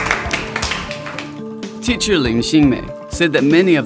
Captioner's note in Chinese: 鼓掌